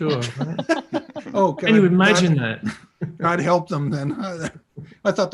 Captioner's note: laughter